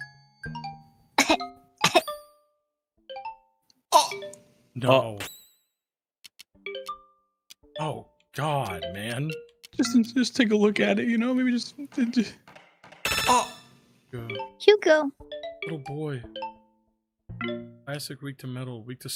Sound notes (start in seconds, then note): 1.2 coughs; 3.9 stammers